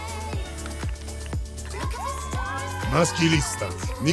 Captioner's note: girls applauding and cheering